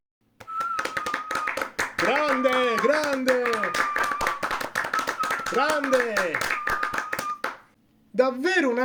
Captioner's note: applause